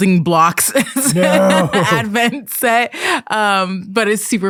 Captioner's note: laughs